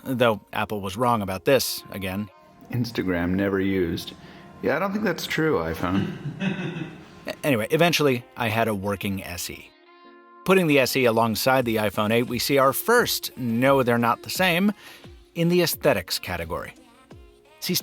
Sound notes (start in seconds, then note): 5.6 man laughing